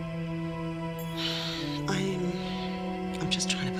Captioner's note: Nora sighs